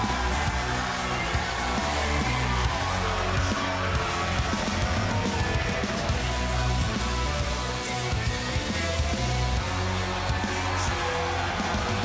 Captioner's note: cheers and applause